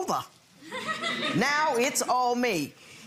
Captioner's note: audience laughs